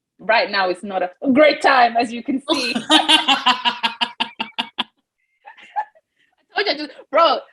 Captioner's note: laughing